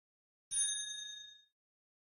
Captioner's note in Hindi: घंटी की आवाज़